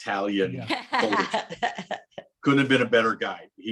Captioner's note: laughs